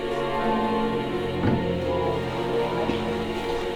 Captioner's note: cabinet door closes